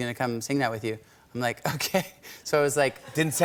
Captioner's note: chuckling